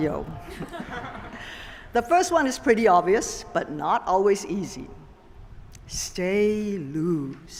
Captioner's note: laughter